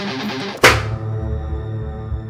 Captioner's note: The loud metallic thump as Jesse gets knocked out; ominous music